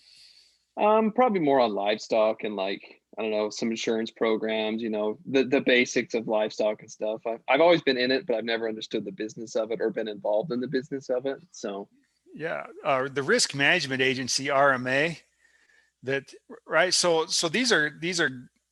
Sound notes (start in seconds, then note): none